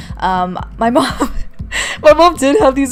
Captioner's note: laughing